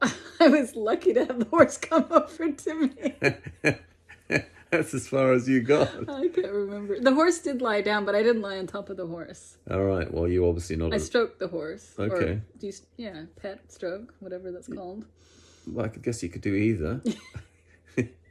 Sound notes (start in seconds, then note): 2.5 both laugh